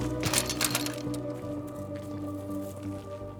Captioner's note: bikes rattle; eerie music